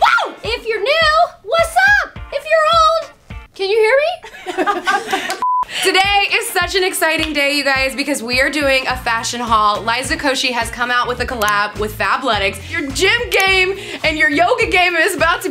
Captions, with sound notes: - Whoo! - If you're new, wassup if you're old, can you hear me? (women laugh) - Today is such an exciting day. You guys, because we're doing a fashion haul. Liza Koshy has come out with a collab with Fabletics. Your gym game and your yoga game is about to